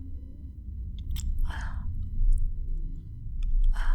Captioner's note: sounds of muffled breathing